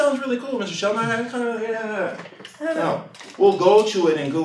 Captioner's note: mumbling